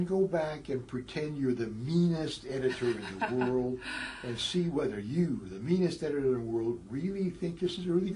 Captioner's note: laugh